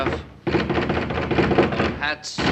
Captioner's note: banging at door